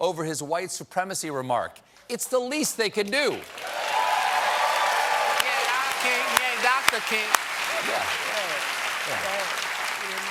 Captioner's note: applause